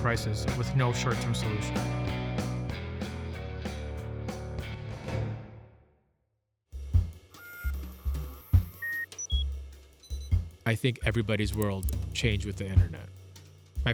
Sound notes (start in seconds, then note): 6.9 jazz music; 7.4 equipment beeps and whirs